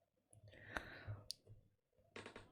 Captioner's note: intake of breath